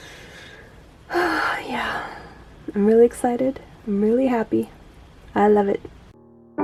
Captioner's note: contented sigh; pensive piano music